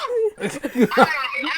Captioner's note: laughing